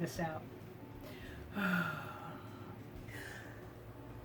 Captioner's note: exasperated sigh